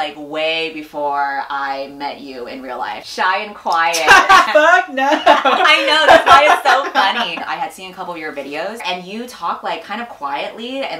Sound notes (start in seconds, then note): 4.0 laughs